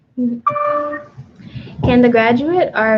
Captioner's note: computer dings